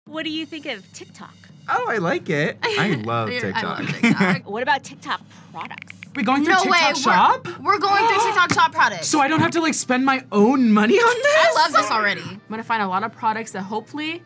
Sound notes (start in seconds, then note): 3.8 laughs